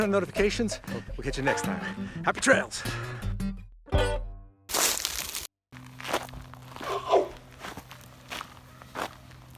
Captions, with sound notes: turn on notifications, we'll catch you next time. Happy trails! (gravel crunching)